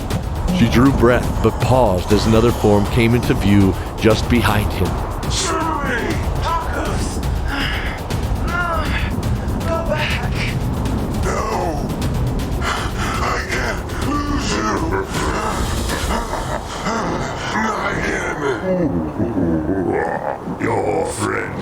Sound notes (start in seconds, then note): 5.4 shouting; 10.5 panting and groaning; 19.1 panting and groaning